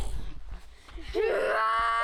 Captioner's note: screaming